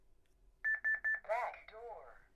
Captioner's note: beep beep beep